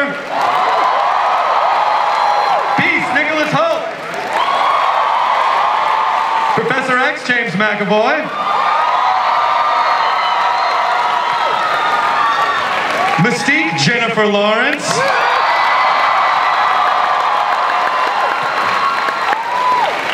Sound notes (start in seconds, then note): 0.0 audience cheers; 8.5 audience cheers; 14.8 audience cheers